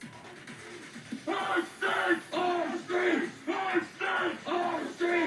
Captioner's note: group chanting